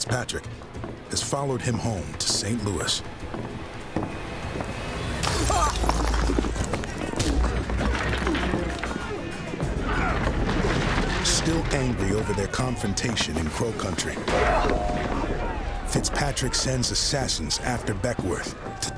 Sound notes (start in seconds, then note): 5.4 glass shatters, man groans; 9.8 shouting, fighting